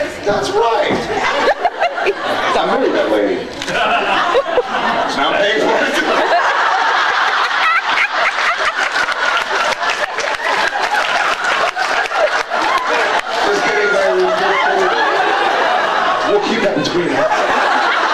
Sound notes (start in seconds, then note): 0.8 stomping noises; 1.0 laughs; 6.2 laughs; 14.8 laughs; 17.7 laughs